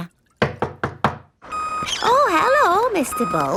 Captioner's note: knocking at door